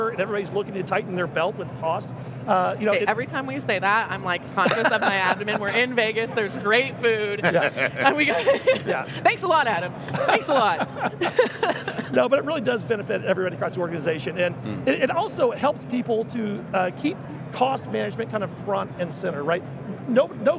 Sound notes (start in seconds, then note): 4.6 laughing loudly; 7.3 laughing loudly; 10.0 all laughing loudly